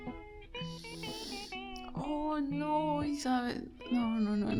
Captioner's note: inhales